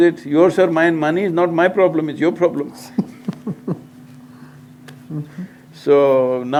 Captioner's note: laughs